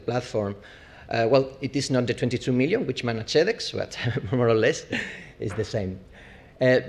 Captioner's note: laugh